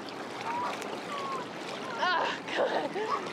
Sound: water gently rippling

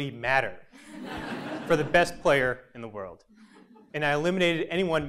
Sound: laugh

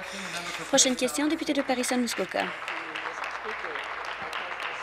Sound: applause

